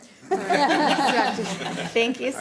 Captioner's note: panel laughing